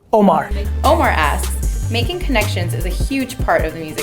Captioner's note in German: Voice-over